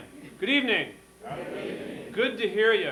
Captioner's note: audience responds